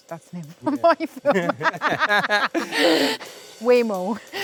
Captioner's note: both laughing